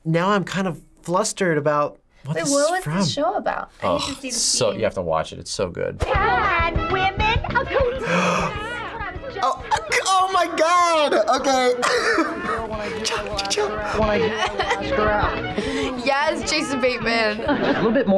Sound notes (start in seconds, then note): 7.9 gasps; 10.8 laughs